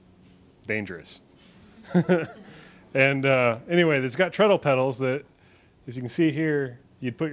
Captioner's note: laughs